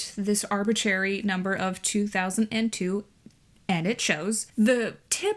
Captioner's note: none